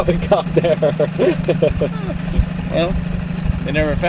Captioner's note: cameraman laughs